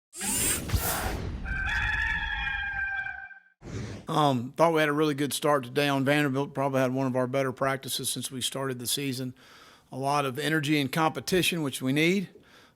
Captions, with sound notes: (whooshing) (crowing) - Thought we had a really good start to down Vanderbilt, probably had one of our better practices since we started the season. A lot of energy and competition which we need